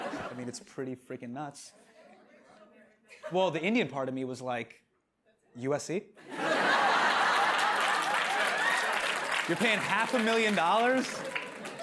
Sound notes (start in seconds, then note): 6.2 laughter